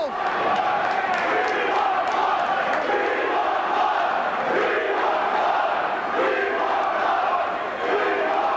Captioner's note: crowd cheering